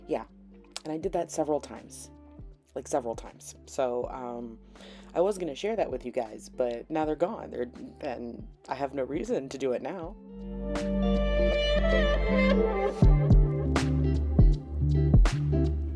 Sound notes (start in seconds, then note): none